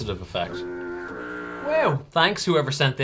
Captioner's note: foghorn sounding